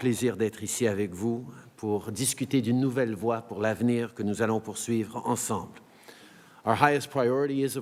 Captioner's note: speaks in French